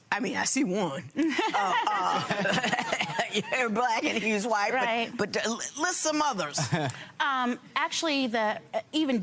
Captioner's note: laughter